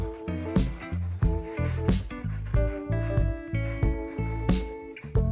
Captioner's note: marker etching